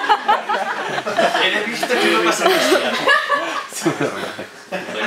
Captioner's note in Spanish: risas